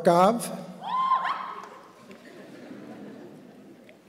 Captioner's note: classmates shout in excitement; audience laughs